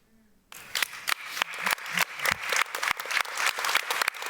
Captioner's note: applause